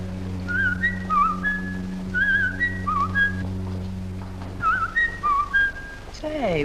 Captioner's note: Chris making bird songs of a Robin